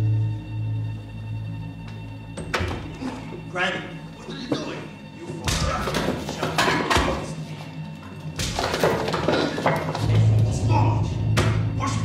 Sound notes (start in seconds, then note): 2.4 door closes; 5.5 thudding and punching